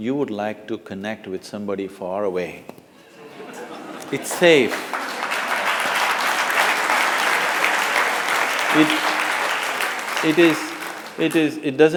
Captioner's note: laughter; applause